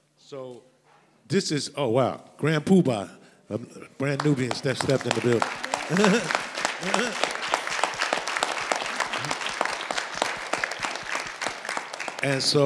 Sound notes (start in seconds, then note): 5.0 laughs; 5.9 audience applauds